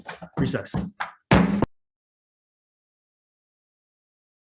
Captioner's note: gavel strikes